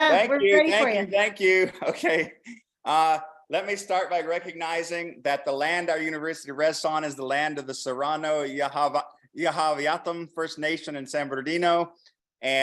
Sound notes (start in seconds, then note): 0.0 background Discussion; 0.1 laughs